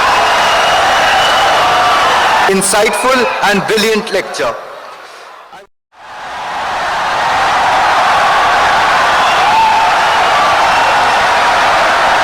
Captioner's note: wild applause and cheering for 17 seconds